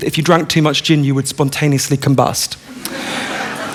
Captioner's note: laughter